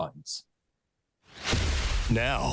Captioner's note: thunder crashing